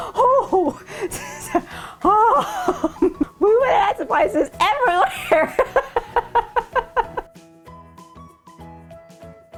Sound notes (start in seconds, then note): 5.0 laughing